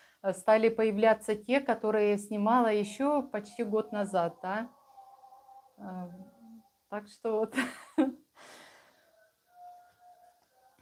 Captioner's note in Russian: смех